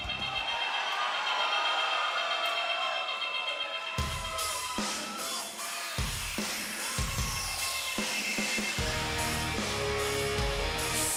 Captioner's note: cheers and applause